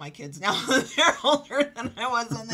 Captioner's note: laughing